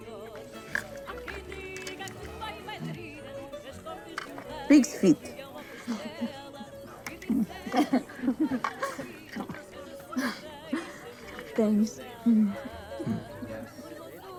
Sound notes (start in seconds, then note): 5.9 laughing